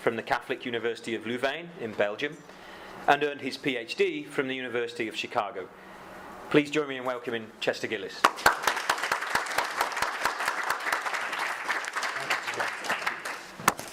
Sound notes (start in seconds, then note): 8.3 audience applause